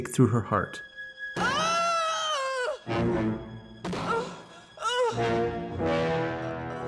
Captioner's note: mallet pounds; woman screams; suspenseful music